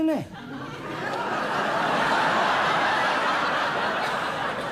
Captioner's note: audience laughs